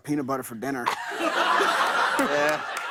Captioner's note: laughter